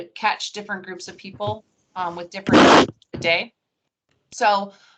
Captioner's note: audio static